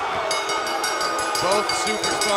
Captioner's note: cheers & applause; bell